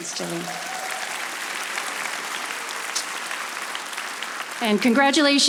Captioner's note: audience applauding